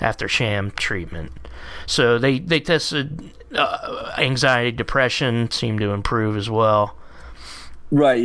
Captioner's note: stammering